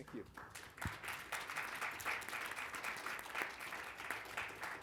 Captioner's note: audience applauding